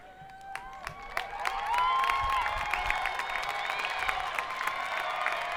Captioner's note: audience applauding